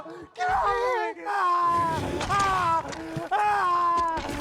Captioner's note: screaming